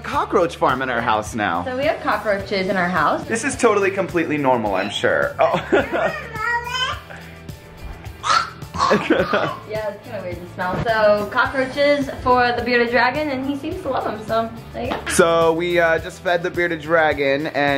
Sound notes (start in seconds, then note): 5.3 laughs; 8.1 gags